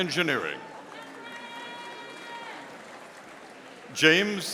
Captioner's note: audience applauding